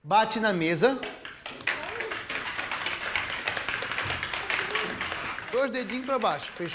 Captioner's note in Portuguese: batidas na mesa